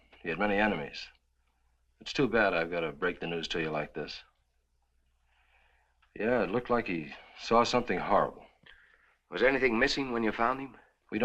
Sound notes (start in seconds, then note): none